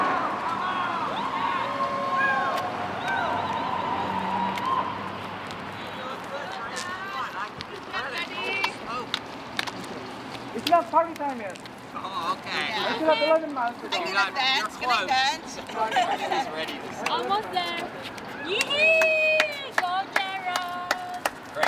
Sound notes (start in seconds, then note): 0.0 loud cheering; 6.1 group chattering; 15.6 group chatters; 18.4 loud yelp